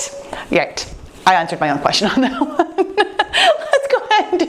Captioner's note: laughing